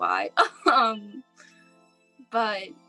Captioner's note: laughing